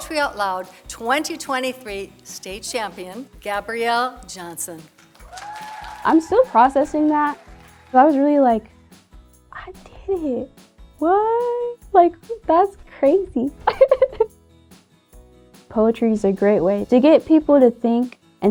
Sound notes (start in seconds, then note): 4.9 audience applauding